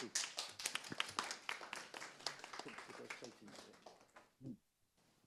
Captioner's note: audience applauding